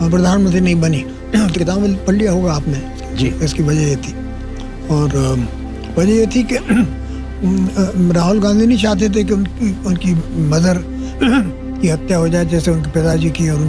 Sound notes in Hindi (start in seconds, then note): 6.7 गला साफ़ करने की आवाज़